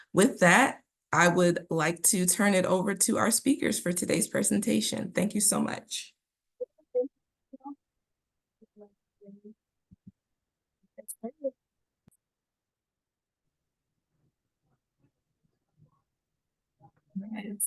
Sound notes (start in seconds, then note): 12.1 silence